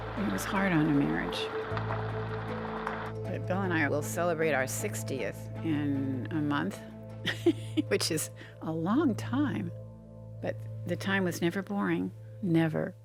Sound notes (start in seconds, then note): 6.9 laughing